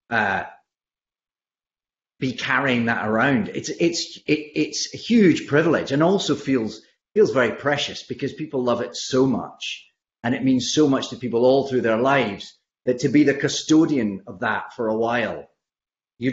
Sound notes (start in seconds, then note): none